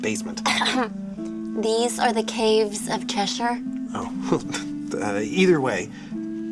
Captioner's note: clears throat